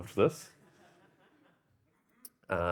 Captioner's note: audience laughing